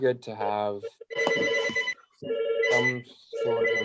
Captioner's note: telephone ringing